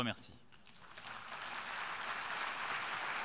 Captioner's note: applause